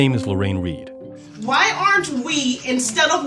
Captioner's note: soundbite of archived recording